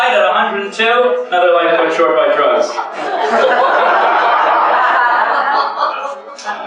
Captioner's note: laughter